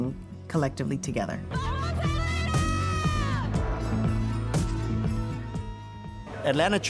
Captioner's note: both Yelling